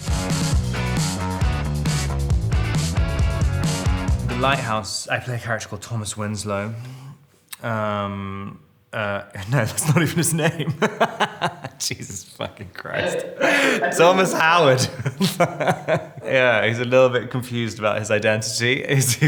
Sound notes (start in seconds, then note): 0.0 upbeat rock music; 9.7 Robert laughing; 12.8 Robert and interviewer laughing; 15.1 Robert laughing